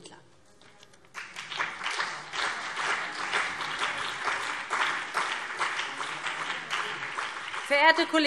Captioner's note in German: Beifall BÜNDNIS 90/DIE GRÜNEN und vereinzelt CDU